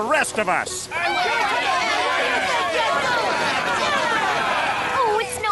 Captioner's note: angry shouts